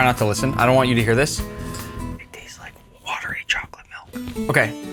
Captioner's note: whispers